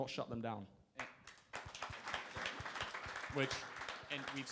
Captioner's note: crowd applauding